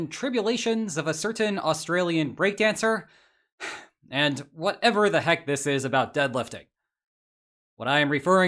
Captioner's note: sigh